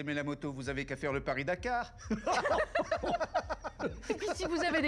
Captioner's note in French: rires